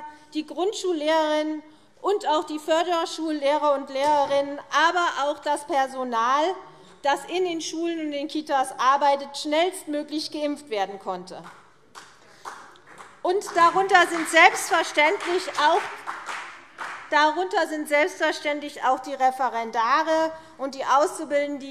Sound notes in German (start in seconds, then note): 11.9 Beifall CDU